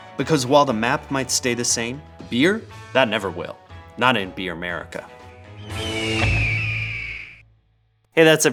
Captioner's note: eagle triumphant SFX